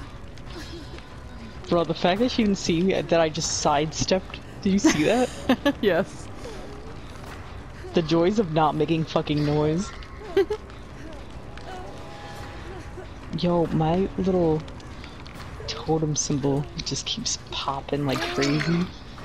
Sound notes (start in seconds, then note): 5.6 laughs; 9.8 giggles